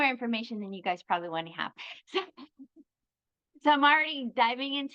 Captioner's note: chuckles